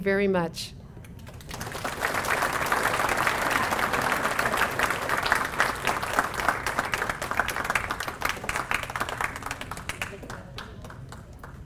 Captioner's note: applause